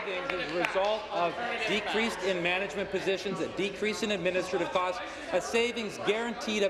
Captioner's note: applause